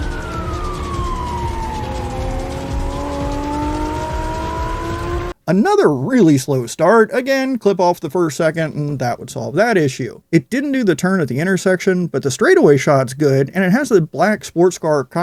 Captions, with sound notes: [car engines roaring] [sirens wailing] Another really slow start. Again, clip off the first second and that would solve that issue. It didn't do the turn at the intersection, but the straightaway shot's good, and it has the black sports car